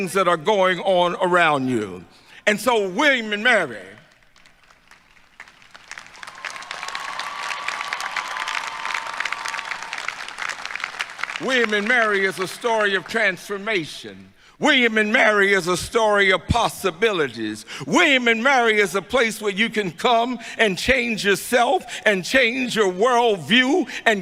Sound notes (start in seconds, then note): 3.9 applause